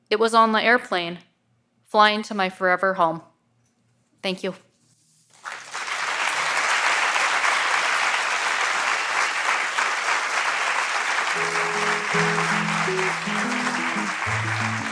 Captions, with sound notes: it was on the airplane flying to my forever home. Thank you. (audience applauds) (gentle guitar music)